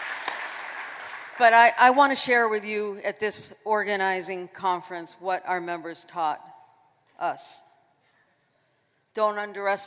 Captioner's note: applause